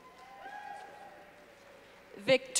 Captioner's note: clapping